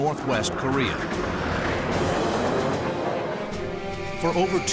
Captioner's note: planes roaring